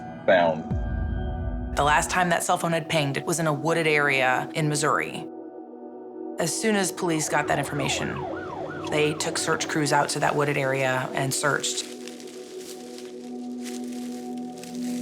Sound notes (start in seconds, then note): 6.8 siren wailing; 11.7 leaves crackling